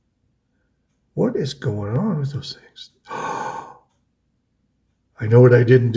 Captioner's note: gasps